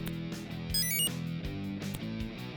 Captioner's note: enter chime